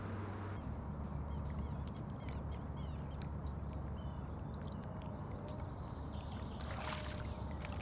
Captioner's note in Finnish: luonnon ääniä